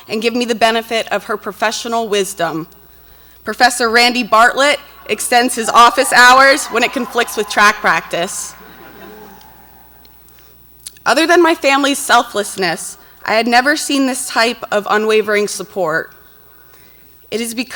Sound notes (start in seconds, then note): 6.3 audience cheers; 8.8 audience laughs